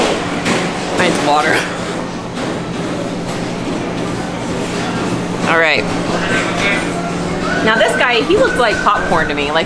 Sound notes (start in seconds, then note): 2.7 laughs